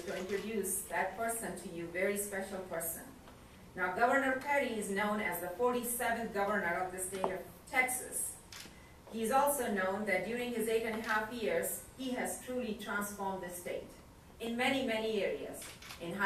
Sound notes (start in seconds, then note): none